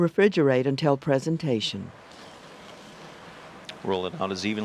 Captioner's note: voiceover